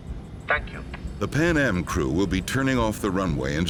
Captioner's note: voiceover